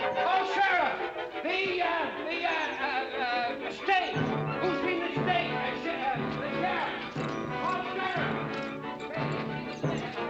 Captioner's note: still shouting